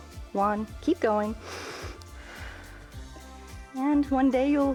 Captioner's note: inhales and exhales